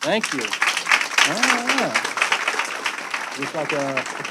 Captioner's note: audience applauding